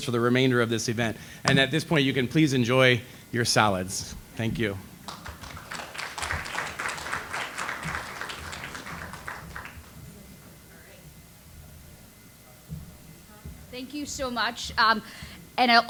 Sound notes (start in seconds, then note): 5.0 audience applauds